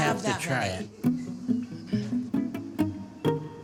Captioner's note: laughs